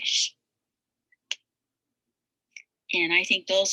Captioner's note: mouse clicks